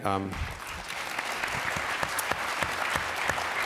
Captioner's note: applause